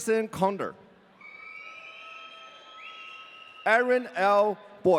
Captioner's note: audience cheering